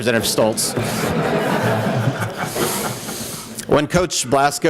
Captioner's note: laughter